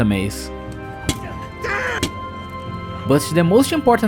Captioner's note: bonk, bonk